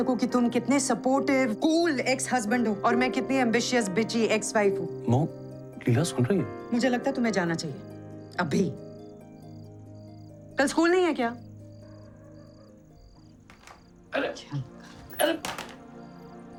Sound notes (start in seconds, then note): 12.1 TV sounds; 14.8 remote clunking